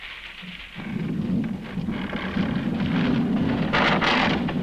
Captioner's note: gates creaking